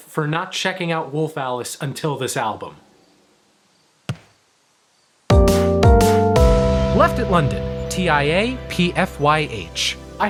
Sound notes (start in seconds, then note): 4.1 foot thuds; 5.3 relaxed music